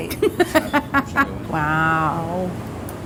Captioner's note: laughter